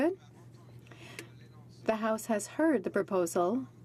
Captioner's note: speaking in french